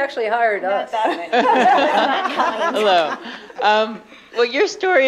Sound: laughter

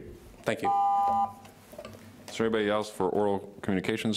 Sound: beep

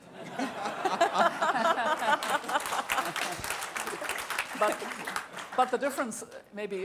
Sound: laughter and applause

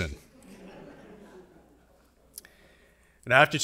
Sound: audience laughing

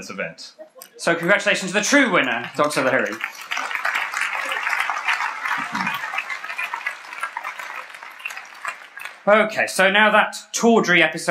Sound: applause

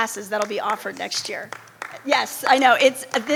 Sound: audience member applauding

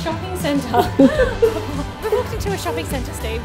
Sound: both laughing

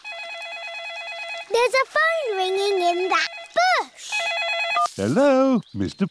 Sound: ringing

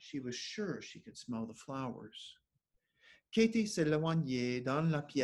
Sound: speaking French

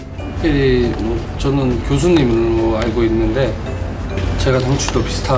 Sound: speaking in foreign language

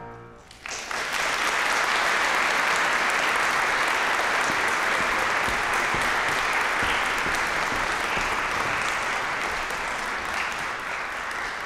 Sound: applause

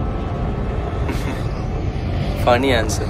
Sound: laughs

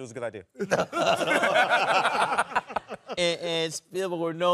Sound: laughing

